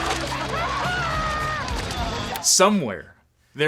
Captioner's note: men yelling; crowd cheering